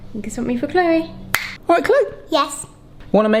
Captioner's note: snaps fingers